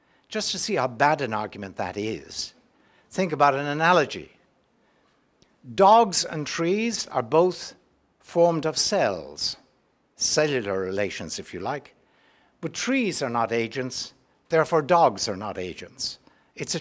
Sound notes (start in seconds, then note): none